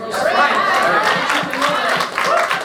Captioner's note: clapping